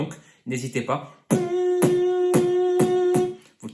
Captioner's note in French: humming avec un kick fort